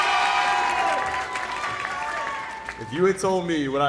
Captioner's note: crowd cheering